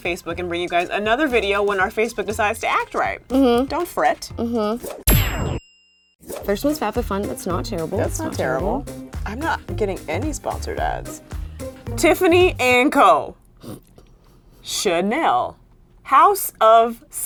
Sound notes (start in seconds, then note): 5.1 bell ringing noise